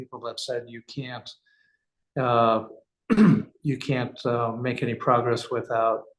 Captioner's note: cough